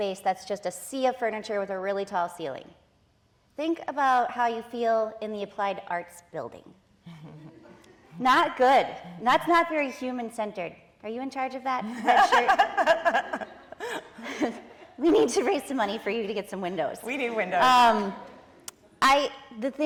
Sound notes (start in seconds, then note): 7.2 audience laughing; 12.0 participants and audience laughing; 18.0 audience laughing